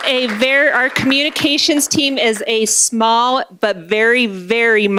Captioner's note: applause